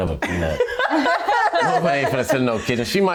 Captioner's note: women laughing